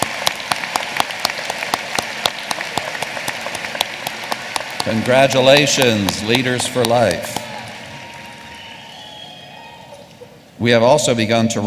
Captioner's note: applause